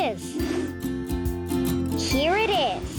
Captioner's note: air whooshing